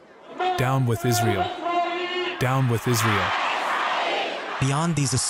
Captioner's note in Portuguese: falando persa